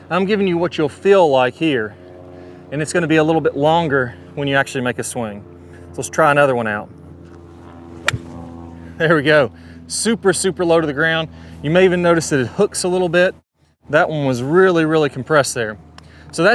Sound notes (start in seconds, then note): 8.0 club whips